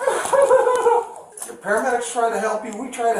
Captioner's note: crying